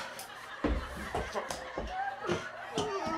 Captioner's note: crying